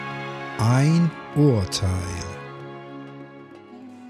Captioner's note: german